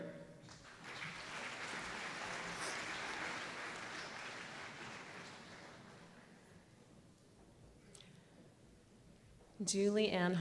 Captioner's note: applause